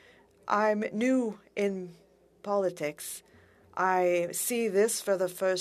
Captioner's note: speaking French